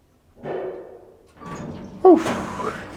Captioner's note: elevator door opens